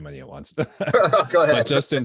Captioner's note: chucking